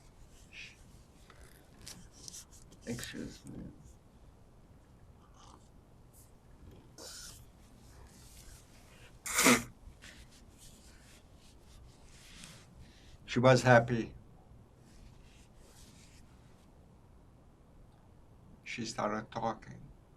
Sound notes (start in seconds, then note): 4.0 drinking; 8.9 wiping nose